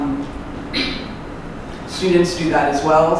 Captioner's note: clears throat